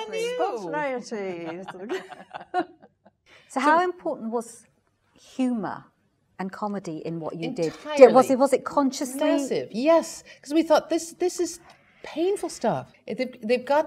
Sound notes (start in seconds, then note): 1.0 laugh